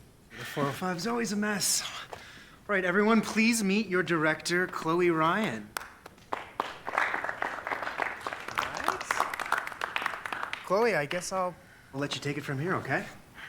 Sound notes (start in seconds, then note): 5.7 clapping